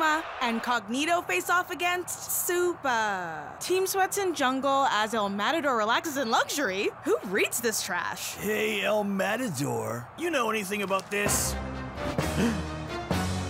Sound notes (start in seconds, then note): 12.2 gasping